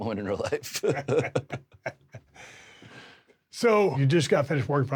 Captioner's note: Drew and Steve chuckle